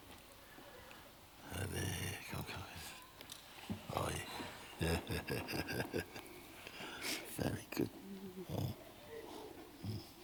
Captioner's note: laughter